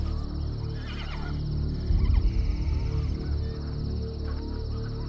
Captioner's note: horse neighing